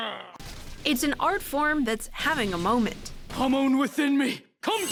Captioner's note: voice-over